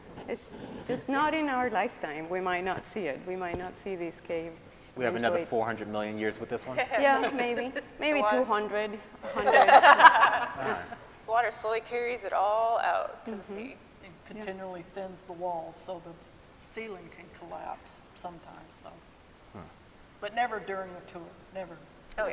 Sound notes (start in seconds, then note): 7.0 laughing; 9.2 scientists laughing